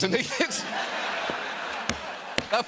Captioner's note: laughter